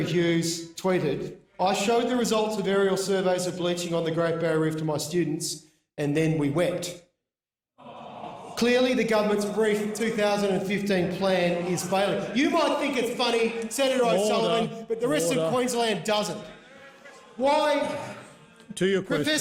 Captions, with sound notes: Professor Terry Hughes tweeted: I showed the results of aerial surveys of bleaching on the Great Barrier Reef to my students, and then we wept. (Voices: aaawwwww…) Clearly, the government’s Reef 2015 plan is failing. You might think it’s funny, Senator O’Sullivan, but the rest of Queensland doesn’t! Order.